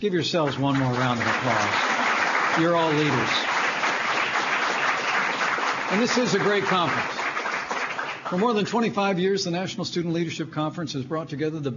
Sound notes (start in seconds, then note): 4.8 applause